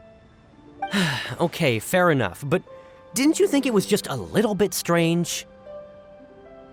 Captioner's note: sigh